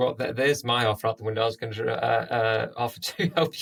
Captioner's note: laughter